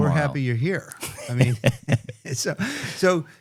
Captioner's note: chuckles